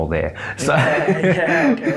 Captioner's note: laughs